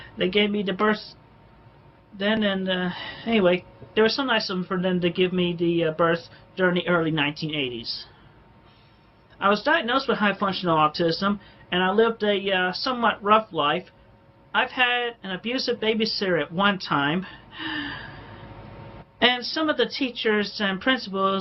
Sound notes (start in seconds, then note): 17.4 inhales sharply